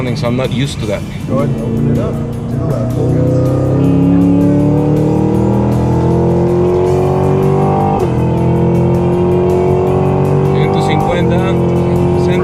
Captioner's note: engine revving